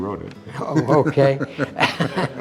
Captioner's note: laughter, music